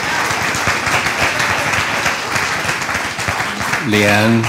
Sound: applause

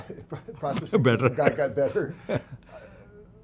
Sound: laughs

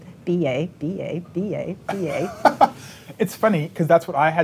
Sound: laughing

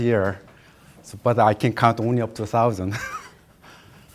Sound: laughs

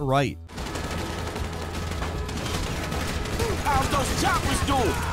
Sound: guns banging

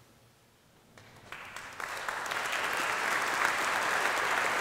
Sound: audience applauding

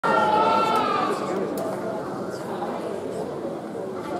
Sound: audience chattering

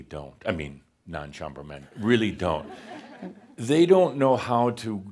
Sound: a few chuckles

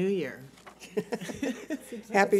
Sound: laughter

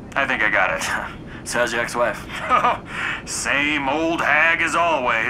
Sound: chuckles

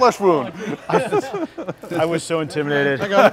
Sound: laughter

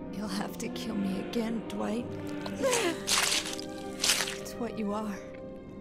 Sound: groans

